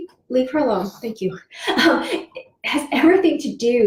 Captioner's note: laughs